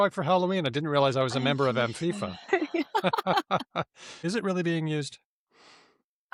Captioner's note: laughter